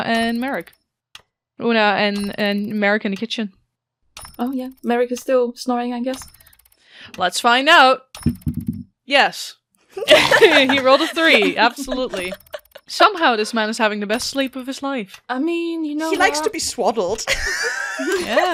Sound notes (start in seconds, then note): 8.3 dice thunks; 10.0 laughter; 17.3 laughs